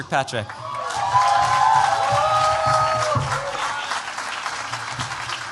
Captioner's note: cheers, applause